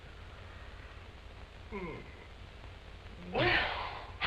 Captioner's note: yawns